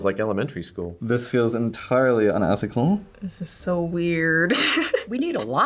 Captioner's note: chuckles